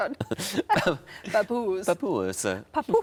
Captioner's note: laughing; imitates Tom